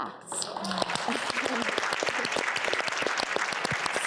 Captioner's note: applause